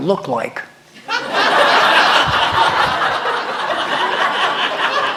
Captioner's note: laughter